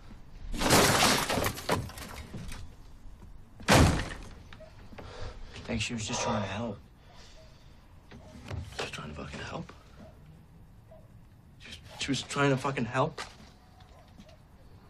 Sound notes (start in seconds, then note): 0.5 smash; 3.6 another smash